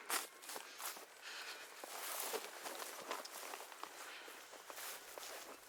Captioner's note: Ira sighs